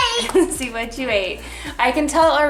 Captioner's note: laughs